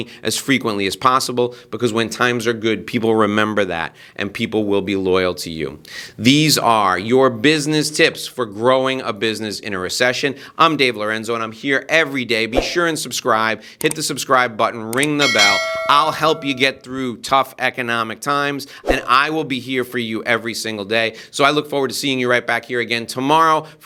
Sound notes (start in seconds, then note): 13.8 mouse clicking; 15.2 bell ringing